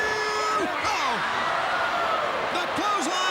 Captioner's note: crowd cheering